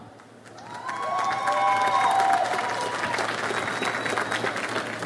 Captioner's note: audience applauds